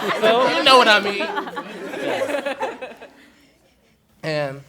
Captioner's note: laughter